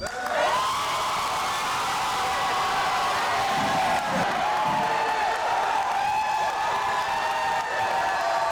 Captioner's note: crowd cheering